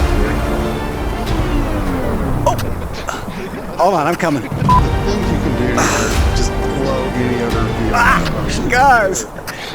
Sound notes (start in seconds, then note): 0.0 slow motion music; 4.6 beep